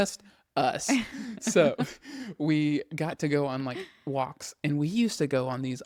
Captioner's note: laughs